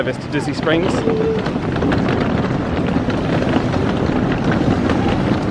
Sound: case wheels thudding

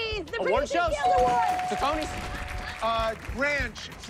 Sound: bell dings

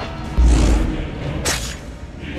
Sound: hidden blade stabbing sound

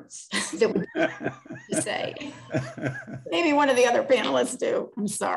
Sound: laughter

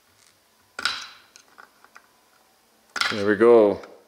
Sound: clanging

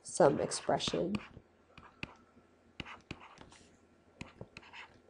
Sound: scribbling

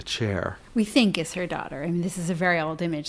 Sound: voiceover

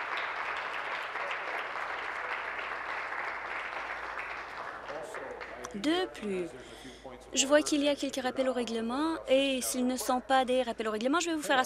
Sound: applause

